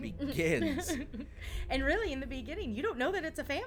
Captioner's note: laughs